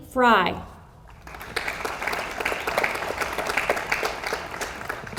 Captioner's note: audience applauds